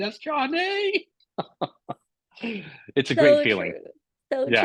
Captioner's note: laughter